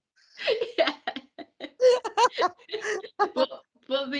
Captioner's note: both laughing